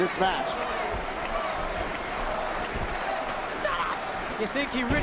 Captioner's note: crowd chatter